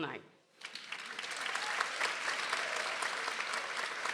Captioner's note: people applauding